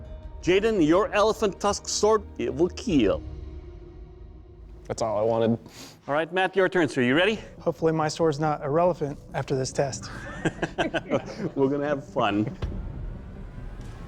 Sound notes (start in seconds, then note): 10.0 laughter